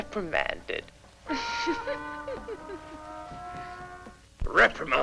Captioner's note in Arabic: كاثي تضحك